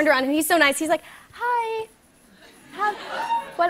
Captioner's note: laughter